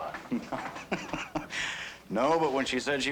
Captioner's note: william laughing